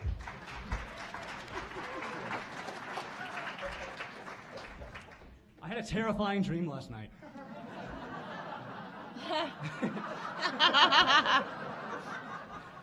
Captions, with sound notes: [audience applauding] I had a terrifying dream last night. [audience laughing]